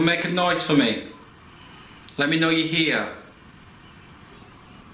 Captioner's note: none